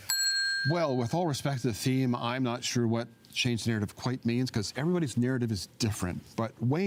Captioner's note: bell rings